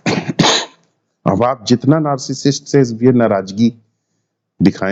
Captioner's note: coughing sound